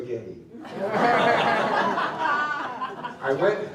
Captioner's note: laughter